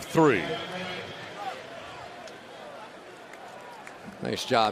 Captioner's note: pa announcement